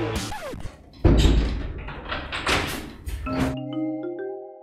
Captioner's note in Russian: Закрывание двери